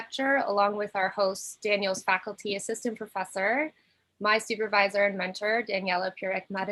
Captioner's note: none